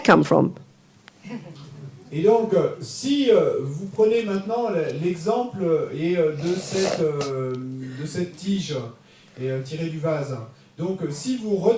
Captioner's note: audience member speaks in French